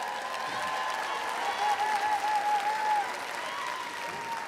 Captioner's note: audience cheering